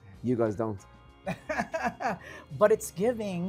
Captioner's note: laughs